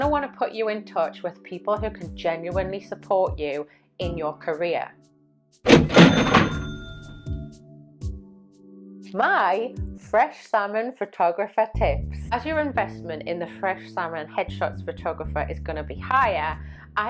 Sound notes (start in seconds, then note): 5.6 cash register dings